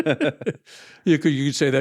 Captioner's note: laughs